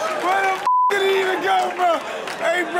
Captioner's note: audience laughs and claps; beep sound